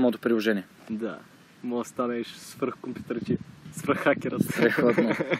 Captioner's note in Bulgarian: засмива се